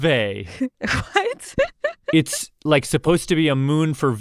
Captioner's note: laughs